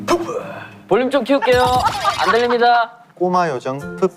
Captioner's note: laughing out loud